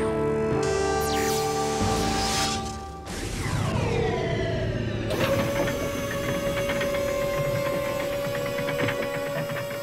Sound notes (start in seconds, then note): 5.2 gates screech as they lower